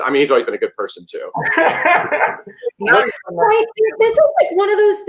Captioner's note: Gideon laughs